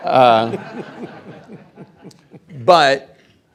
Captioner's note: audience laughing